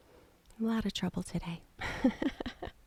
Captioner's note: giggling